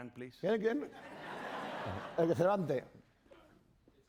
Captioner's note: speaking spanish